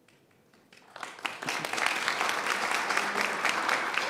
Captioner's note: applause